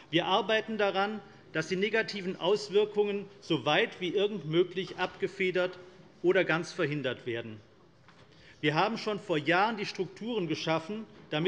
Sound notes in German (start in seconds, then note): none